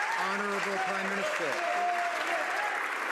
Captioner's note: some Applause